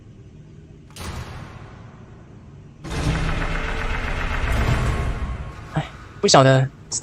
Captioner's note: Statues door sounds